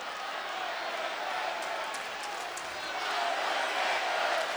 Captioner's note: crowd chanting